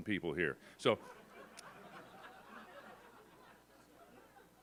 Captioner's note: audience laughs